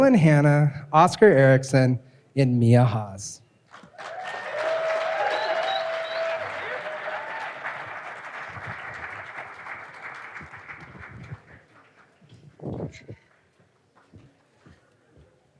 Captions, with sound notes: Tatum Graham, Dylan Hannah, Oscar Erickson, and Mia Haas. (audience applauding and cheering)